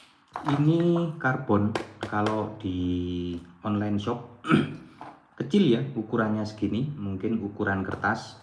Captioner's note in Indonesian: berdehem